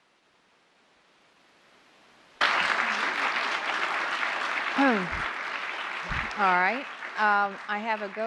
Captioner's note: applause